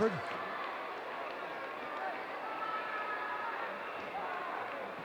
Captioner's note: audience cheering